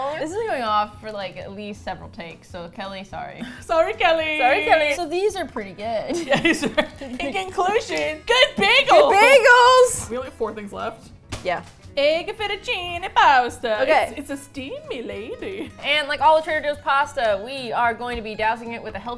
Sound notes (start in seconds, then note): 6.1 laughing; 12.3 Italian accent